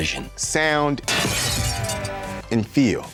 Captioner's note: glass shattering